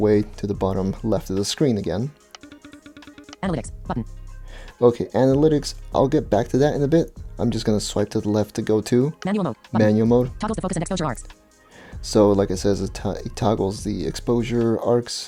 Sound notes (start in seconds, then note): 2.2 short pulsating sounds